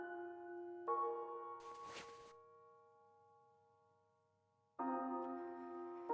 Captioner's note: rustle